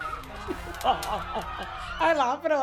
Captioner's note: laughing